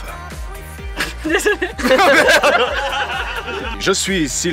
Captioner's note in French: rire non-contrôlé; rire général